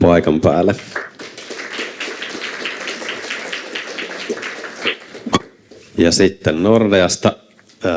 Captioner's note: Aplodeja